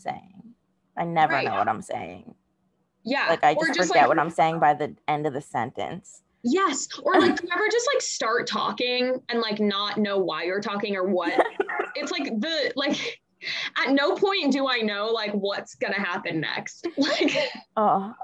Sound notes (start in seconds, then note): 7.1 laughs